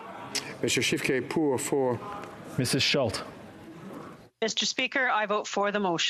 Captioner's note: speaking French